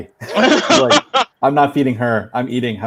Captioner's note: laughing